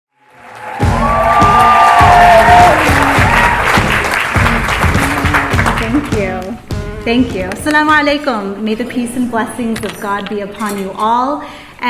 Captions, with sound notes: (applause) - Thank you, thank you. Salamu Alaikum May the Peace and blessings of God be upon you all,